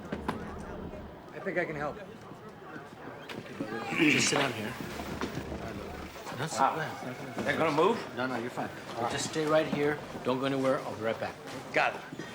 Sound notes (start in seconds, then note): 3.7 clears throat; 7.3 mutters